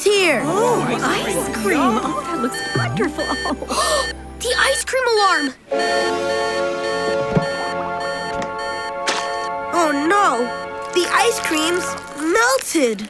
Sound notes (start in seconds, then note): 3.6 gasps; 5.2 alarm blaring